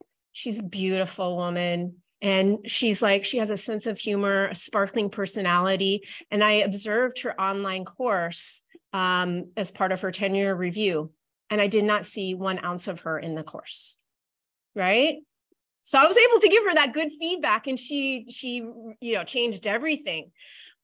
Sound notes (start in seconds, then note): none